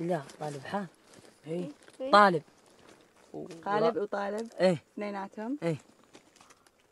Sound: group speaking in foreign language continues

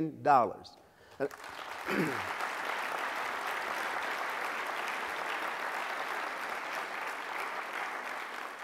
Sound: applause

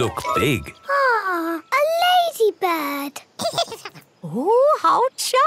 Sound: giggles

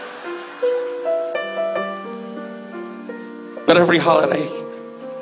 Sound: audience laughs

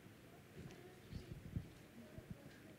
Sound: none

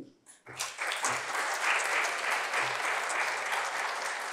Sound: applause

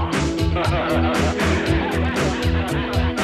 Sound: laughing

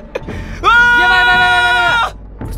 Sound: screaming

